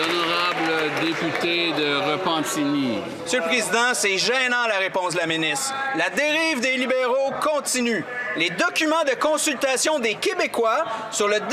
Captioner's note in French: voix de l'interprète